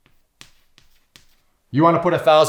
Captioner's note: chalk scraping on chalkboard